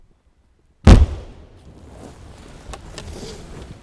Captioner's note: sound of explosion